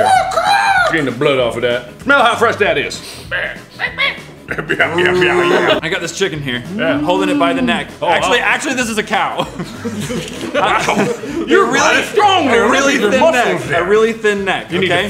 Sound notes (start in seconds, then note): 3.7 various animal noises; 6.7 mooing; 10.6 normal voice